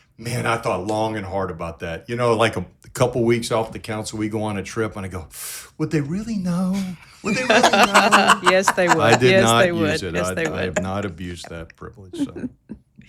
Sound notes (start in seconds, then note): 7.1 all laughing